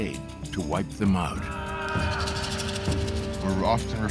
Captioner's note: chanting